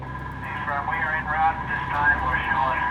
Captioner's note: man Over Radio